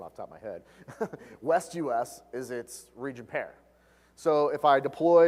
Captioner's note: laugh